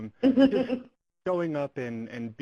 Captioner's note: laugh